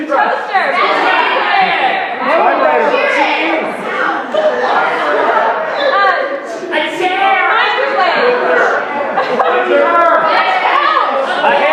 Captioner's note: audience shouts suggestions